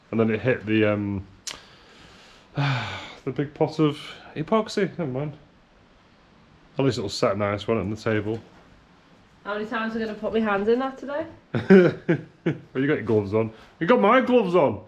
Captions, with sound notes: And then it hit the big pot of epoxy, never mind. at least it will set nice on the table. - How many times am I gonna put my hands in there today? (laughing) you got gloves on? You got my gloves on!